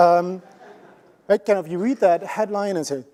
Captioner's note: laughter